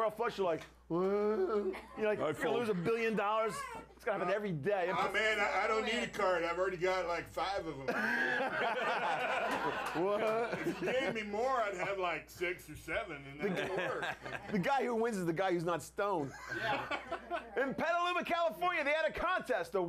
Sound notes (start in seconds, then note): 11.6 laughter